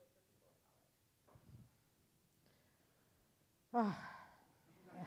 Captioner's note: Justice Sotormayor sighs